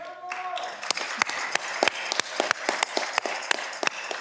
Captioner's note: audience clapping